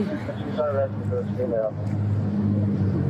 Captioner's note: radio chatter